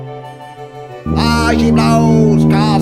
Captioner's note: ship’s horn